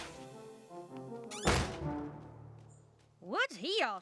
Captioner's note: whistle!; slam!